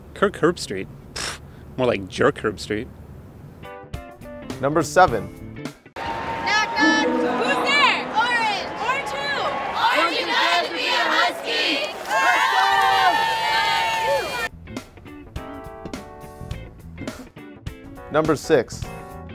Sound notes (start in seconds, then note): 12.2 cheering